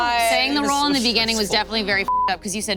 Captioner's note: beep